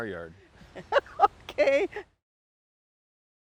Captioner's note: laughs